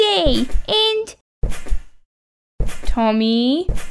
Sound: bouncing

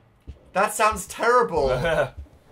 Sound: laughs

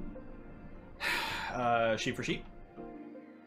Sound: sigh

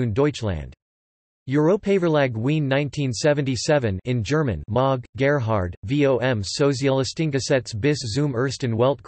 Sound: in German

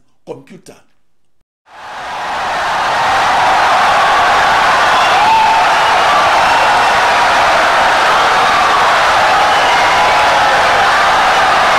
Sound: wild applause and cheering for 17 seconds

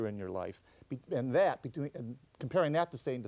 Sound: stutters

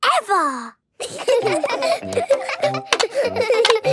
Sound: laughter

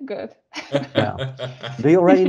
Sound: all laughing

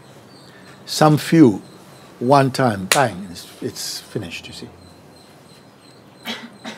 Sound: claps hands

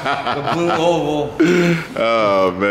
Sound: laughing

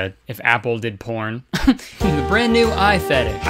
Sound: chuckles

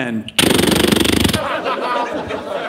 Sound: imitating a gun blasting; audience laughing

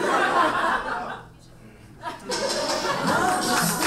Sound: audience laughs; upbeat music; audience applauds

